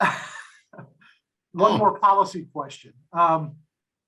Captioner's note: chuckles